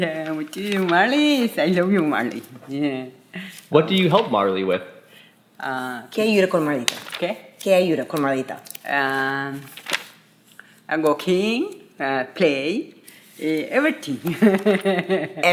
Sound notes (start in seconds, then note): 6.2 speaking Spanish; 14.3 laughing